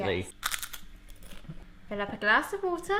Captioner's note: crunch